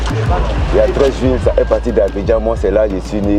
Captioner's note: foreign language